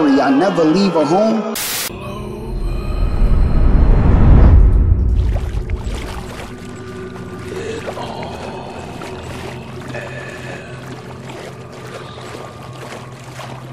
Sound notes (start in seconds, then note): 2.1 ominous game ambience; 5.6 footsteps slosh